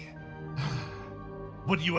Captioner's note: sigh